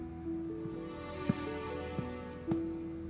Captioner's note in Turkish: Ayak sesleri